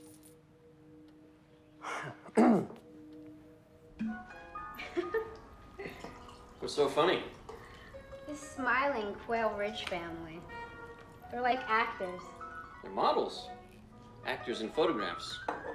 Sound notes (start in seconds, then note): 1.8 clears throat; 5.8 laughs